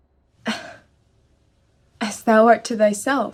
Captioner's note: sighs